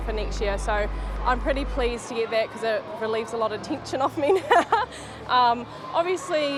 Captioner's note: chuckles